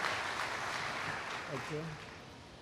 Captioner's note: applause